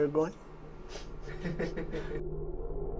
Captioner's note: laughter